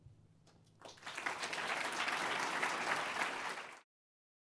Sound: applause

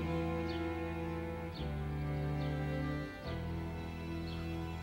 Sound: birds chirping

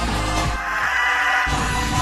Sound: screams

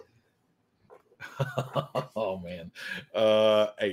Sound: laughs

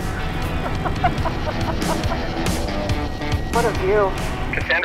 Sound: laughing

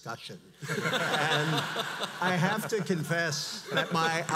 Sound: audience laughs

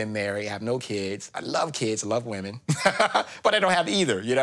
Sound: laughs

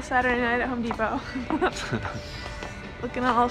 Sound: laughs

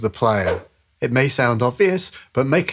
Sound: whoosh sfx

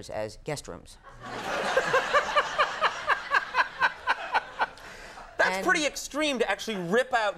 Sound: laughing

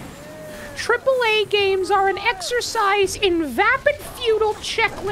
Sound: high pitched nerd voice

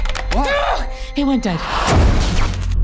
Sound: groans

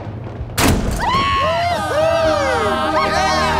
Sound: cheering

